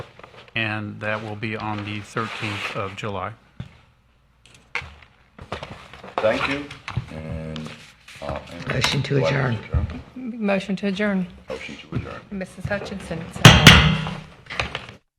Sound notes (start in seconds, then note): 13.4 gavel banging